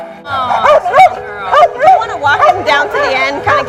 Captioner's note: dog barks